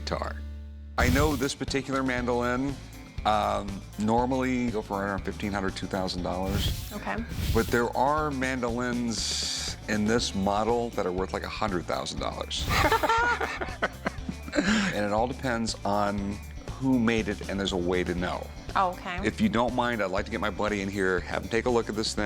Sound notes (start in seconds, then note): 12.7 laughing